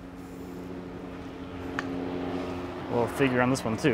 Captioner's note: plane engine roaring